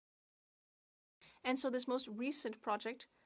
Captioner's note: speaking French